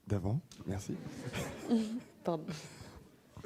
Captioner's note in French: rires